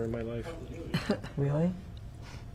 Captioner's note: laughing